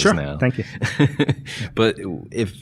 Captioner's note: laughing